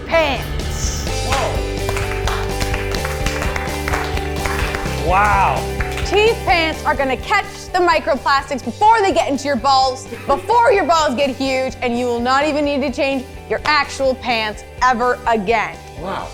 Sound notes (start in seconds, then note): 1.1 everyone clapping